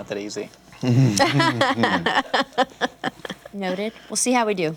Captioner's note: laughter